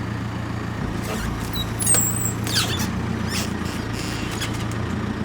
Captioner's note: wood creaking